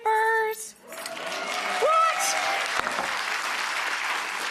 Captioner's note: applause